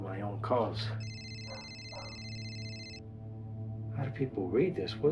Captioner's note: phone rings